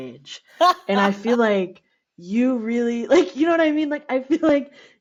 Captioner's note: laughter